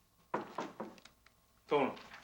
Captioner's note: door knocking